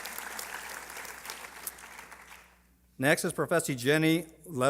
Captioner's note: applause